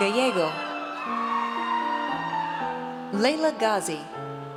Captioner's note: audience cheers